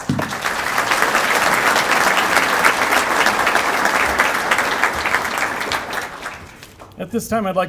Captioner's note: applause